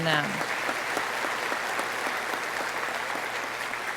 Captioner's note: audience applauding